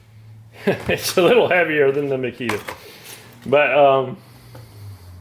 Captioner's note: chuckles